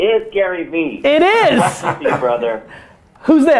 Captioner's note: group laughter